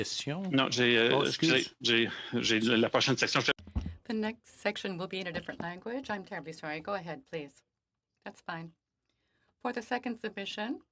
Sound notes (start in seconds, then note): 6.4 speaking French